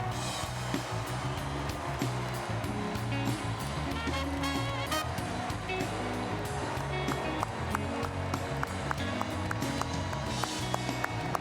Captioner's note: cheers and applause